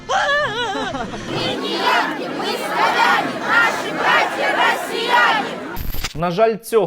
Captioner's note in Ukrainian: кричать